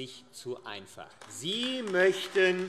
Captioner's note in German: Beifall AfD